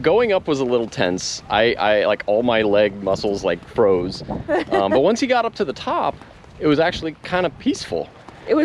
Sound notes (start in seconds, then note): 4.5 laughing